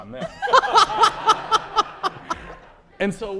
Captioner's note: laughter